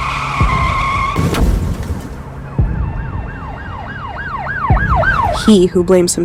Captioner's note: brakes squealing; car crashing; siren blaring